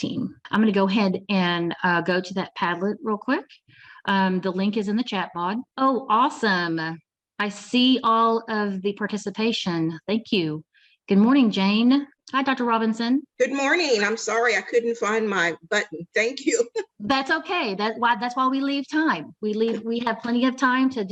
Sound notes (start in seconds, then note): 16.4 laughs